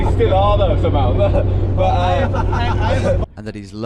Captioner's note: laughing